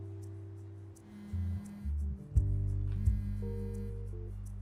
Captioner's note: cellphone buzzing